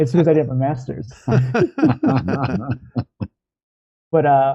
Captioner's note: laughter